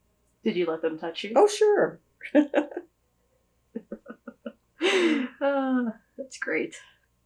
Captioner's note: laughter